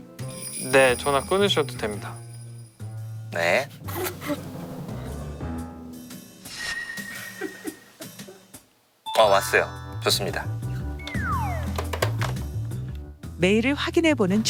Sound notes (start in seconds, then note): 3.9 failed to hold back laughter; 11.0 call finally ends